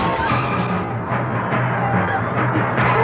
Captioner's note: giggling